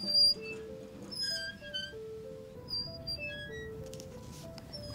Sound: cart creaking

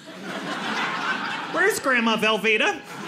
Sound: audience laughing

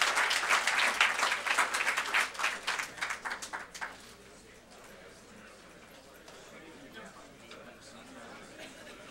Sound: applause

